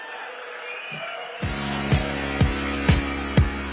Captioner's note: applause